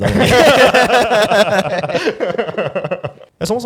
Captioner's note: everyone laughs